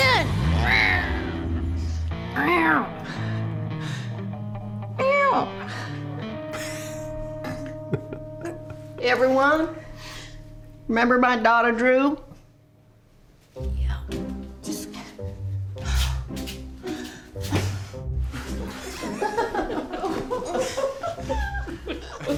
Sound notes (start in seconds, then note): 6.4 giggling; 18.6 everyone laughing